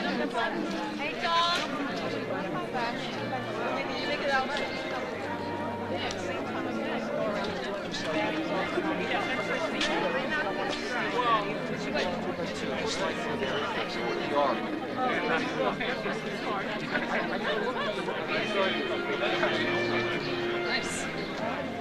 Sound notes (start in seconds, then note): 3.1 overlapping chatter; 3.1 slow baroque music; 18.4 overlapping chatter